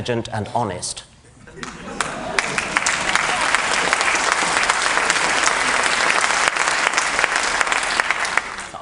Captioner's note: applause